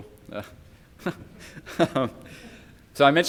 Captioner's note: attendees laugh